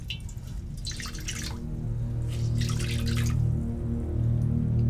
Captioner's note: towel ringing out in sink